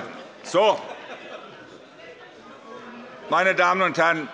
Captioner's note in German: Anhaltende Heiterkeit